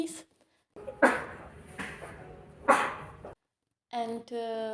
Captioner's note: double sneeze